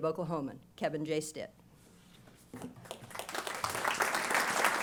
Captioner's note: applause